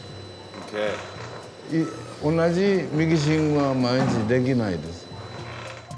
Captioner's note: speaking Japanese